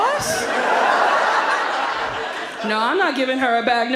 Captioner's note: audience laughs